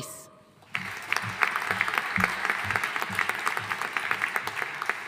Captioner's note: audience applauding